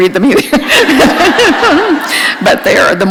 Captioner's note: laughter